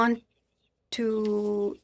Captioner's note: speaking French